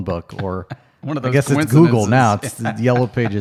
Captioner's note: laughs